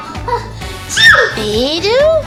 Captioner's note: sneezes